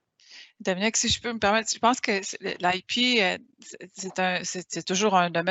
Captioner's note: speaking in foreign language